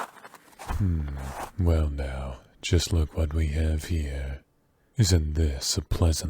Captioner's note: footsteps in the snow